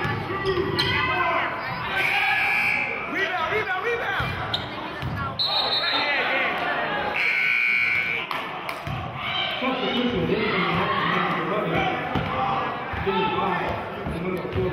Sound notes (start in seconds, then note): 2.6 buzzer sounding; 7.1 whistling and buzzer sounding